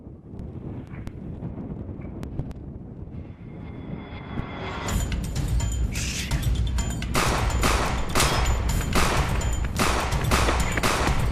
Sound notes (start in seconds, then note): 3.7 tense music; 7.1 gunshots popping